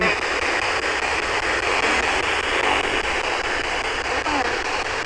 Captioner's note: electronic static hissing